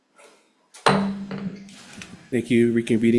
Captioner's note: gavel clanks